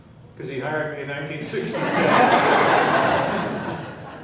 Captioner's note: laughing